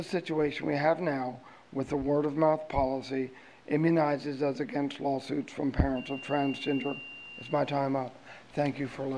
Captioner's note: bell